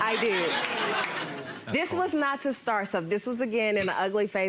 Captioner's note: crowd laughing